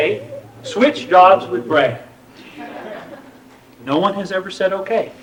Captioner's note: laughter